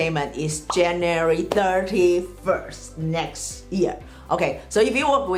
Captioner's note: bubble pops